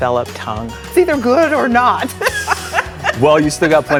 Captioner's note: laughs